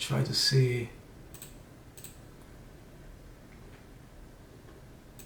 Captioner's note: computer mouse clicks